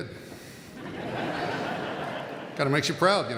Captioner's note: audience laughing